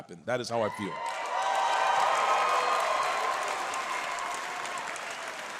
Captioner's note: audience cheers